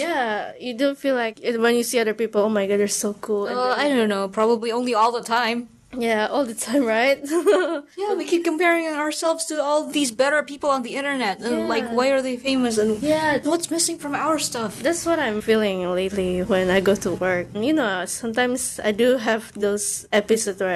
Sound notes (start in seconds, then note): 7.2 chuckles